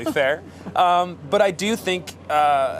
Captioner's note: laughter